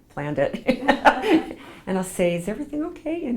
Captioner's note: laughs